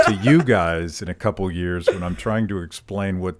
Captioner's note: laughs